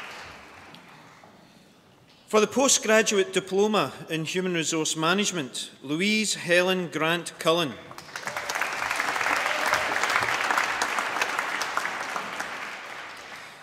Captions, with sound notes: For the Postgraduate Diploma in Human Resource Management, Louise Helen Grant Cullen. (APPLAUSE)